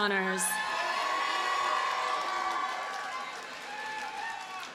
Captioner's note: audience cheers and applauds